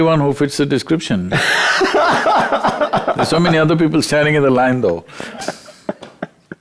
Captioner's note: laughs